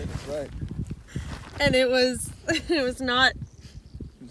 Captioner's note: laughs